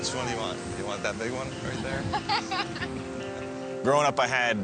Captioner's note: laughs